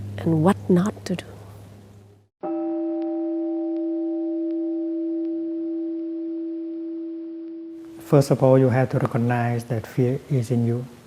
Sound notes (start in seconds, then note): 2.4 meditation chime